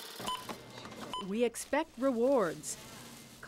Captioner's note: scanner beeps